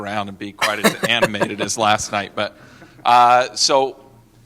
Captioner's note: laughter